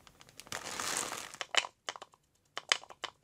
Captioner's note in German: Klappern